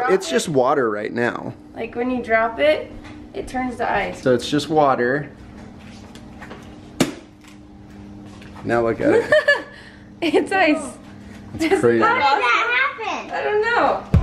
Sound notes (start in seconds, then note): 9.1 laughs